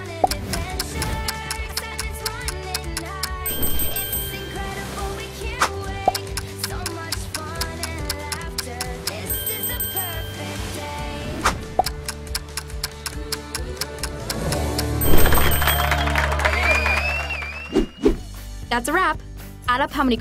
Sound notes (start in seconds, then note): 0.0 clock ticking; 3.1 bell ringing; 6.0 clock ticking; 8.6 bell ringing; 11.7 clock ticking; 14.8 bell ringing; 15.3 applauding